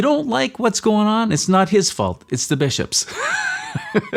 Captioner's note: laughs